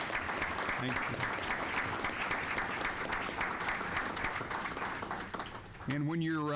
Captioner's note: applause